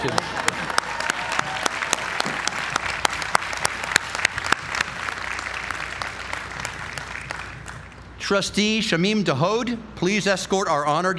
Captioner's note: applause